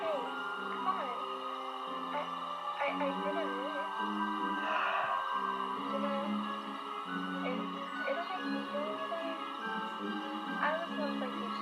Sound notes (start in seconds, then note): 4.4 sighs sadly